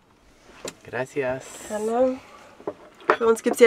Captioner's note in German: auf Spanisch